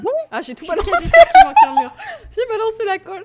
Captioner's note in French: rire